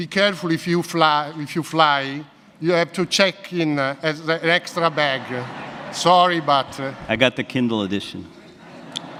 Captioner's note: audience laughs